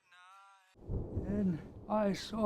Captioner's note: thunder rumbles